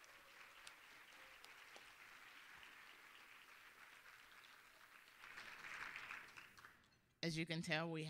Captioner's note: applause